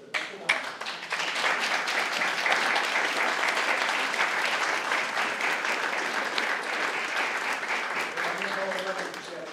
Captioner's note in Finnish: aplodeja